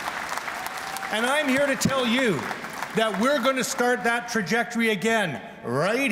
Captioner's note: cheers and Applause